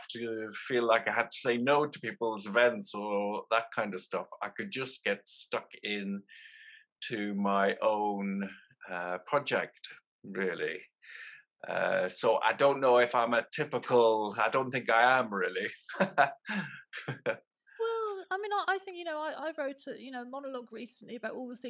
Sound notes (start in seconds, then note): 15.9 laughter